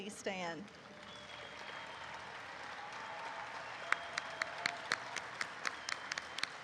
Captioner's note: audience cheers